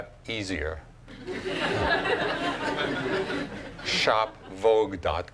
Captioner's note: laughing